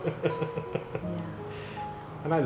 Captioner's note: laughter